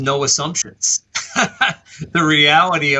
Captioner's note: laughs